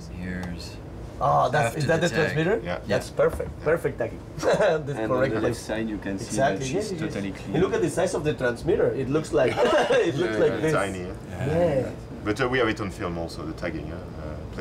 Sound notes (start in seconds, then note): 4.5 laughs